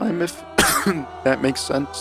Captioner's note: cough